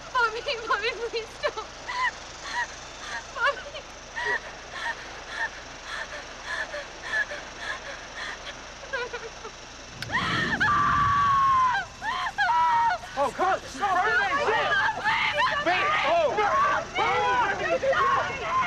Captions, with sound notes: - Bobby, Bobby, please don't. (Veronica sobbing) Bobby, please? (Veronica panting) (Carly screaming) - Oh, God, stop, it's burning. (crew yelling)